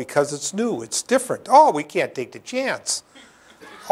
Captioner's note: chuckle